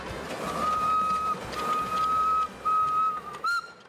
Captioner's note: train whistles